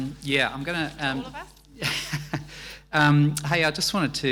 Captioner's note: chuckles